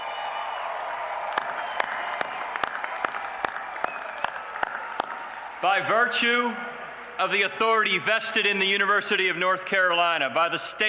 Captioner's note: cheers and applause